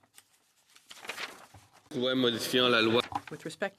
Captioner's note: speaking French